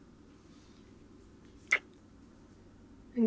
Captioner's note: kiss